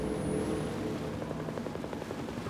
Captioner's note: aircraft noise